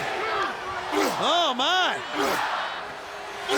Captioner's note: Rick grunting